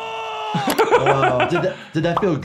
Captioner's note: laughing